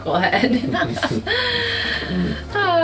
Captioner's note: laughter